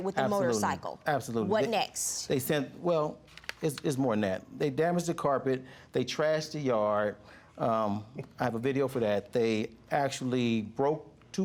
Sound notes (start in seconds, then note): 6.7 chuckling